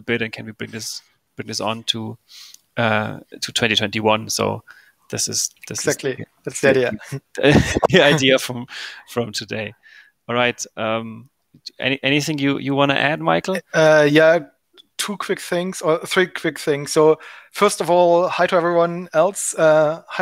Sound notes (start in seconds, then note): 7.4 both giggling